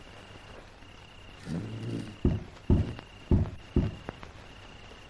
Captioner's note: crickets chirping